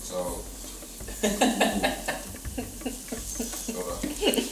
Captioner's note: laughs